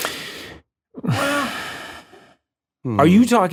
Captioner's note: sighs